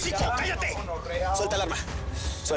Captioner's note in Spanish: Hablan al unísono